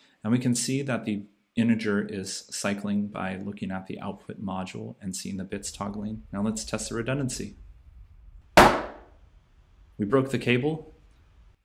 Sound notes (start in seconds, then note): 8.6 knife slamming